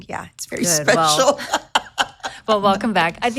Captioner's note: laughs